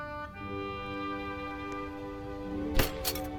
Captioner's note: "excited" footsteps; classical music rises